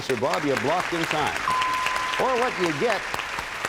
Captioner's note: applause; bell rings